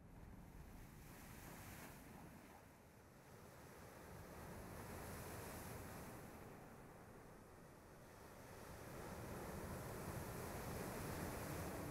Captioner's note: waves softly crashing